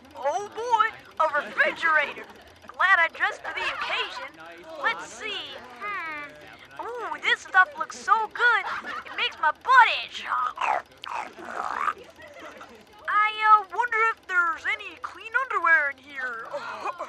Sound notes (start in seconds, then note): 10.4 laughing; 10.5 snorting; 16.5 goofy laughter